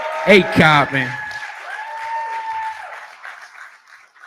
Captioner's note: cheering